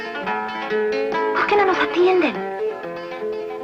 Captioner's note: whispers